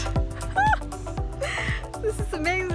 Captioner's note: laughs